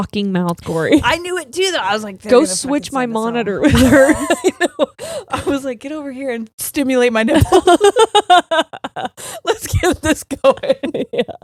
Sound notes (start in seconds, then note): 3.6 both laughing; 7.4 both laughing